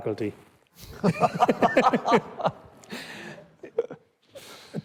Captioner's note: both laughing